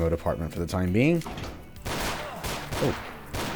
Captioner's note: door opens, Vulture gunshots